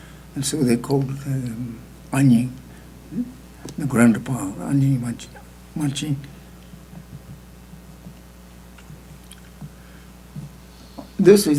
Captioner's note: speaking tibetan